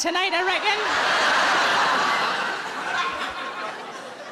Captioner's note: audience laughing